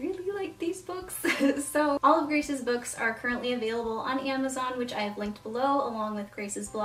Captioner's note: laughs